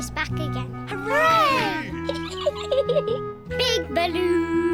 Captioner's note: peppa pig giggles